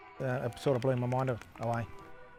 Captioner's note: applauding